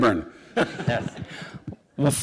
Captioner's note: laughter